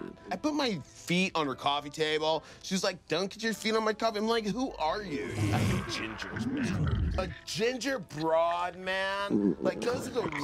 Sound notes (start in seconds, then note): 5.2 stomach gurgling loudly; 9.2 stomach growling